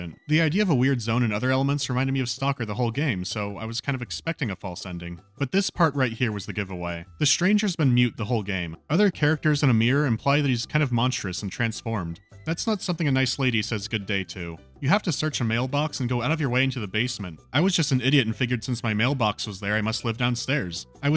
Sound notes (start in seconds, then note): none